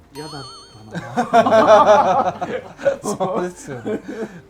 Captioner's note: laughs